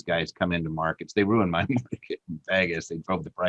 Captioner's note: laughing